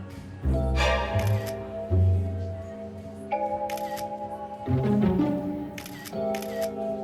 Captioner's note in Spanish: Sonidos de la cámara